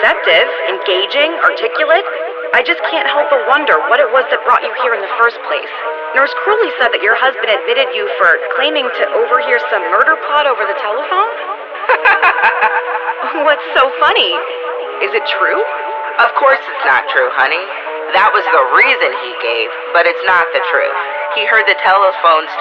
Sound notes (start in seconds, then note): 11.8 laughs